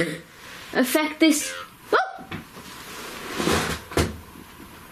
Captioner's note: puck speaking